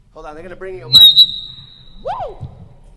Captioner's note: microphone squeaking